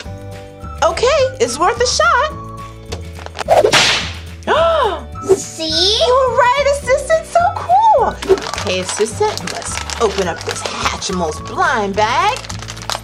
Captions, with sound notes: - Okay, it's worth a shot. (slapping sound and Narrator gasps) - See? - You were right Assistant, so cool! Okay Assistant, let's open up this Hatchimals blind bag.